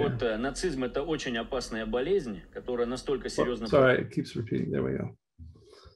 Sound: speaking in Russian

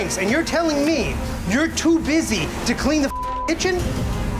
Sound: beeping

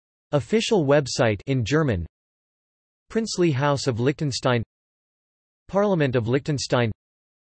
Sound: in German

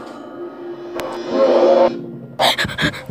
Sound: scary roar

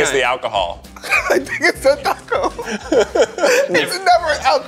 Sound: laughs

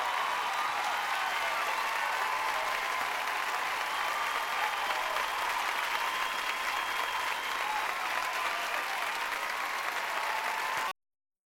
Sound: cheers and applause

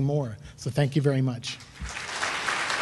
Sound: clapping

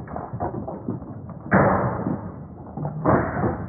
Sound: bang

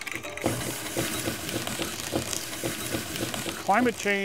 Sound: machine buzzing

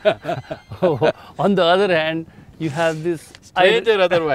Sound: Sadhguru laughs

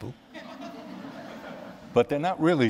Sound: laughter

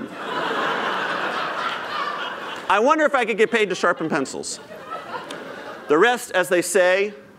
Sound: laughter

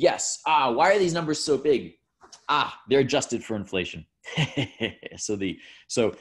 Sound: laughs

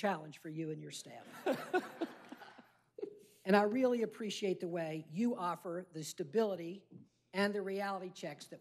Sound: laughter

